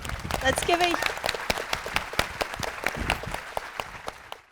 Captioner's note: audience applauding